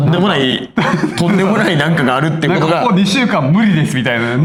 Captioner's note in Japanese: 笑い